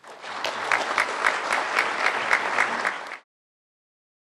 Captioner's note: applause